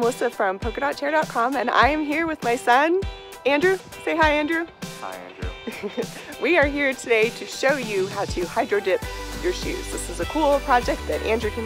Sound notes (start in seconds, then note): 5.0 laughs